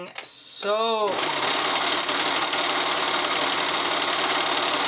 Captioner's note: sewing machine whirring